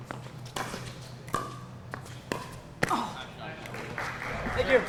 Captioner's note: ball being hit; shoes squeaking; applause